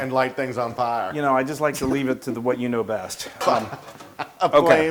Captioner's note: laugh